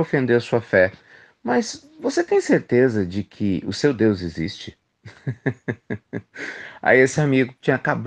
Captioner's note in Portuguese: risadas